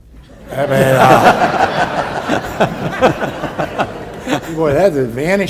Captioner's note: and audience laughs